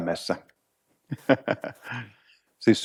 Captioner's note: laughs